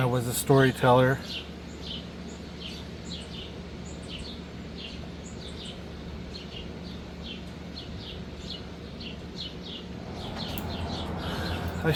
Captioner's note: birds chirping